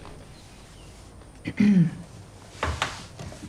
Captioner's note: clears throat